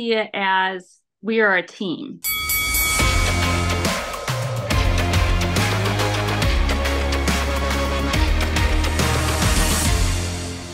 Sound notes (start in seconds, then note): 2.2 bell ringing; 3.8 upbeat music